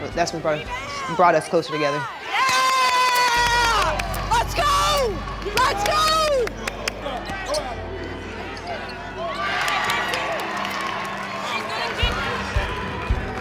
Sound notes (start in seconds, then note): 10.1 cheers and applause